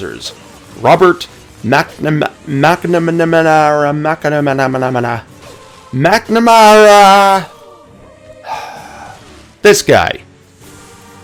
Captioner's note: sigh